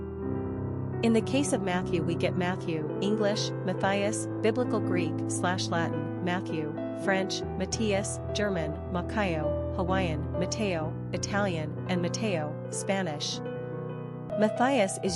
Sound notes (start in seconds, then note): 8.5 German; 11.3 Italian; 12.9 Spanish